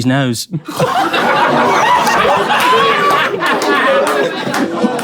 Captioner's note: people in room laughing